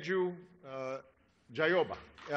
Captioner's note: applause